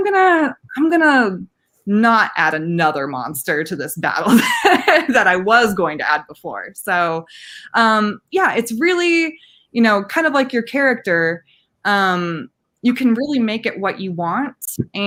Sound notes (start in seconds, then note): 4.2 laughing